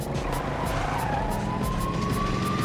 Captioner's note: tires screeching, siren blaring